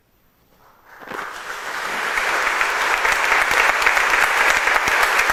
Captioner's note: congregation applauds